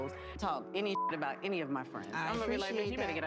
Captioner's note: beep